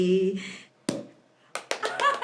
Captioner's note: bottle pops; claps; laughs